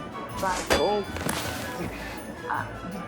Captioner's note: target dinging; upbeat music